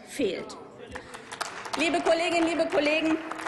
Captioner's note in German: Applaus